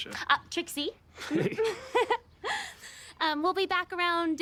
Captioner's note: Trixie and Kent chuckling awkwardly